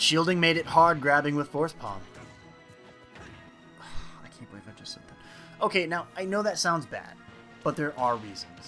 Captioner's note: sigh